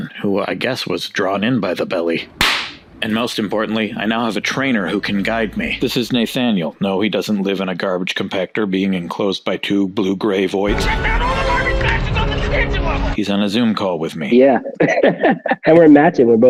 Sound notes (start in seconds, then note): 2.4 belly slap; 11.1 Luke Skywalker shouting frantically; 14.6 chuckling